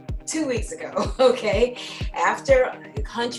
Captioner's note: chuckles